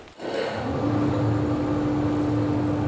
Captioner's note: loud machine humming